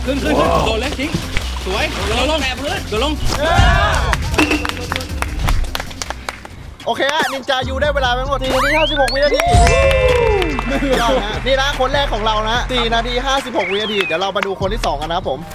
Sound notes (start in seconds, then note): 4.6 applauding; 9.4 applauding